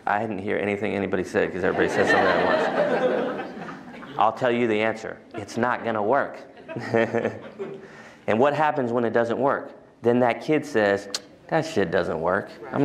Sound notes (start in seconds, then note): 1.6 laughter